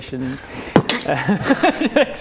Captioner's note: poof!